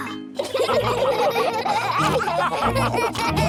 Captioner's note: all laughing